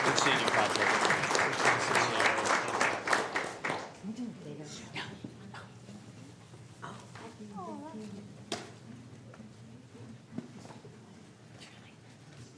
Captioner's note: applause